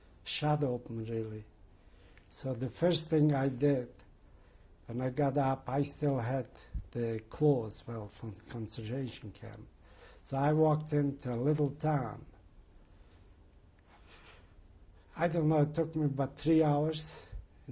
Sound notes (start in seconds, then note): 12.2 pauses for 3 seconds